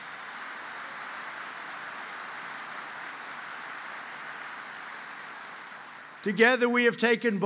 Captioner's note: applause